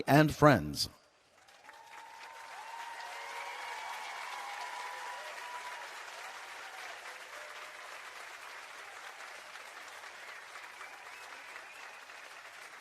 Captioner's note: applause and Cheering